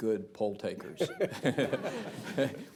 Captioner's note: laughter